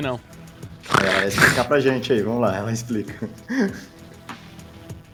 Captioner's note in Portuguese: Risadas